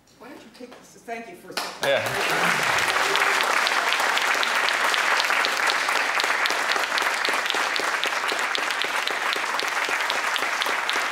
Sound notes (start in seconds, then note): 2.3 applause